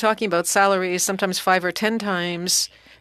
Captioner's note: speaking French